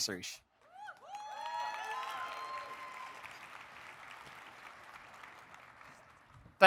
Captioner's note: audience cheering; audience applauding